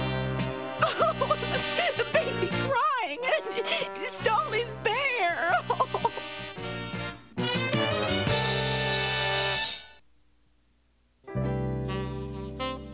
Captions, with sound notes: (CRYING) The baby crying... He stole his bear!